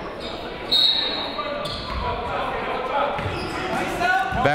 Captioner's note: whistle